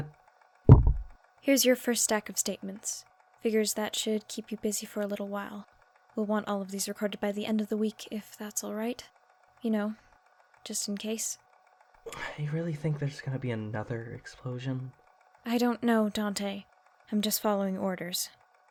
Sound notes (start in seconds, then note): 0.6 thud